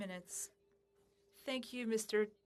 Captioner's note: speaking French